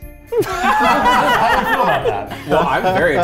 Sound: everyone laughing

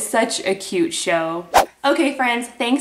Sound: whooshing

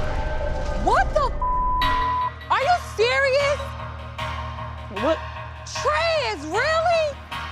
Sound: beep

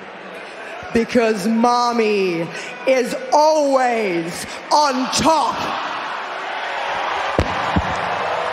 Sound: cheers and applause

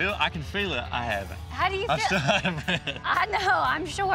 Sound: laughing

